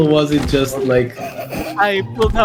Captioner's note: stifled laughter